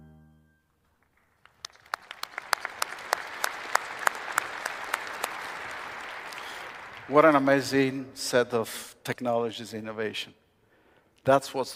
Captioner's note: applause